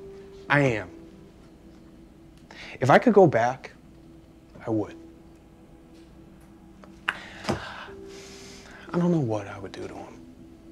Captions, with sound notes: I am. If I could go back, I would. (Ben sighs) I don't know what I would do to him.